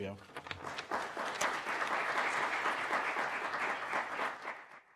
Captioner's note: audience applauding